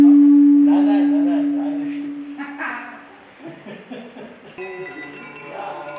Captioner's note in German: Gelächter